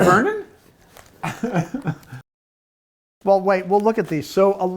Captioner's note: laughing